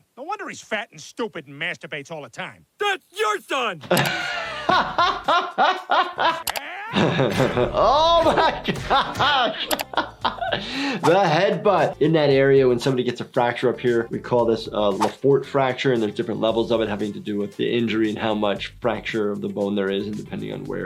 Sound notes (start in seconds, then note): 2.8 laughing; 6.6 screaming